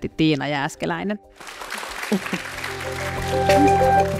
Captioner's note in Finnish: aplodit